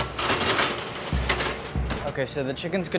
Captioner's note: pan clatters; up-tempo percussive music